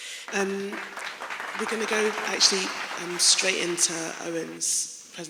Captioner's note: clapping